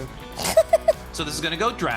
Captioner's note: laughs